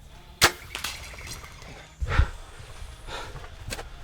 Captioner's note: arrow firing